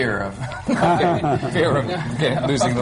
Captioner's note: laughter